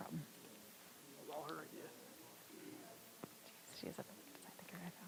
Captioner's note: audience chattering softly